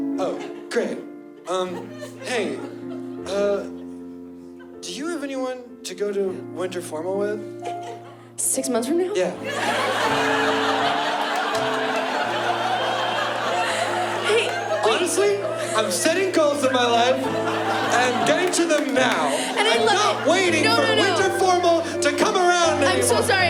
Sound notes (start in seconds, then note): 10.2 laughter